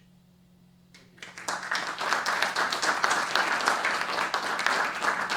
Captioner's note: applause